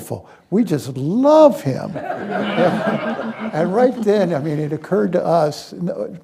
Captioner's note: laughter